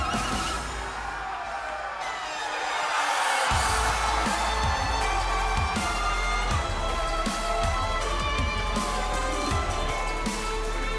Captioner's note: crowd cheering